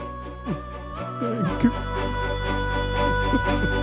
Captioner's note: sobbing